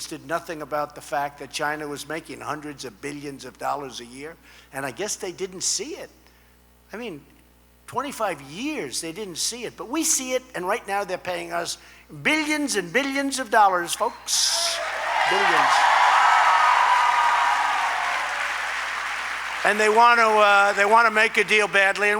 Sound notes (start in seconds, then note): 14.8 applause